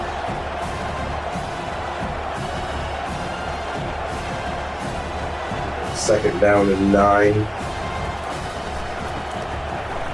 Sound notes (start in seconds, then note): 0.0 crowd Noises; 8.3 crowd Noises